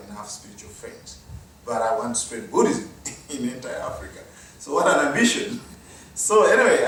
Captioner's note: laugh